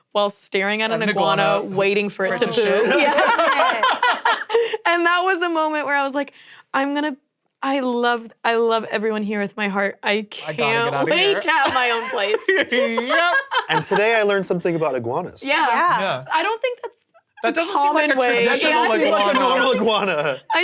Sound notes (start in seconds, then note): 2.8 laughing; 10.6 laughs